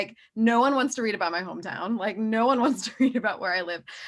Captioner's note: chuckles